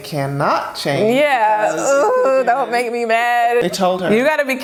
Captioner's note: groans